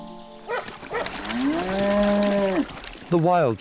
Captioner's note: dog barks, cow moos